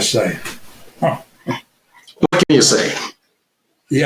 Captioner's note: chuckles